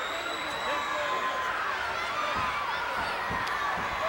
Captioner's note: fans whistling